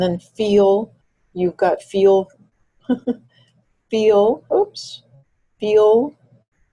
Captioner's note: chuckles